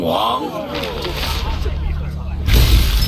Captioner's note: thunder